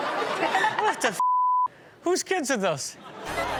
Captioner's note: beep